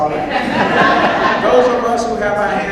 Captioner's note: audience laughs